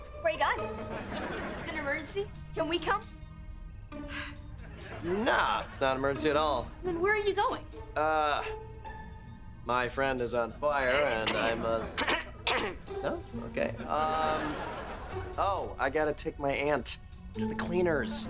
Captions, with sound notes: - Where you going? - Is it an emergency? Can we come? [sigh] - Nah! It’s not an emergency at all. - Then where are you going? Uh... My friend is on fire and I must… [clears throat] No? Okay. Um. Oh! I gotta take my aunt to the cleaners.